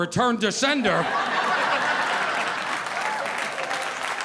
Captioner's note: audience laughing